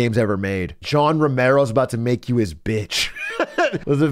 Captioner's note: laughs